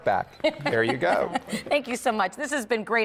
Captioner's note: laughter